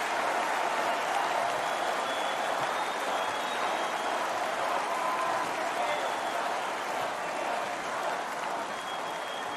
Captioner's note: crowd cheers